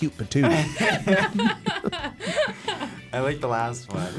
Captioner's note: both laugh